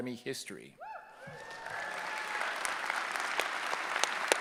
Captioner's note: cheering